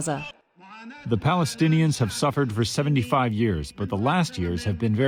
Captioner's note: through translator